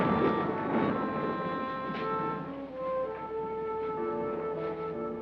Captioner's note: thunder rumbling